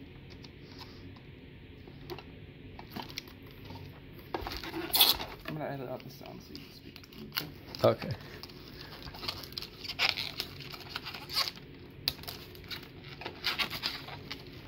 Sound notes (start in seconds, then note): 8.8 plastic wrap ripping; 12.2 knife slices plastic like a sheet of plastic and a knife